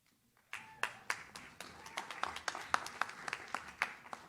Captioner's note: audience claps